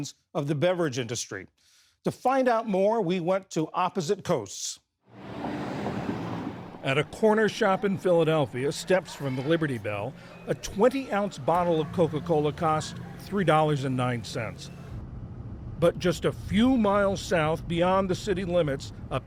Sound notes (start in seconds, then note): 7.2 voice-over